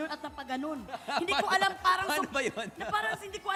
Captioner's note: chuckles